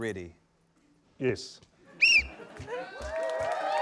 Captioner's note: whistle trills